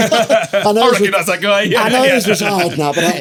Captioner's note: laughing